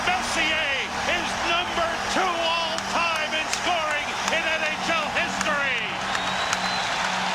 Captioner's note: cheers and applause